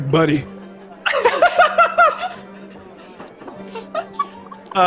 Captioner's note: laughing